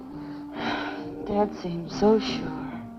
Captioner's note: sighing